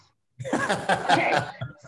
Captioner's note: laughing